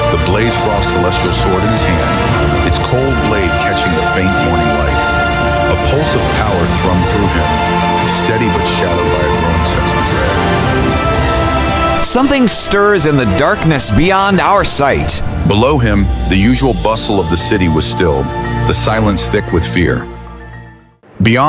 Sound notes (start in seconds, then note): 12.3 whispering to himself, grim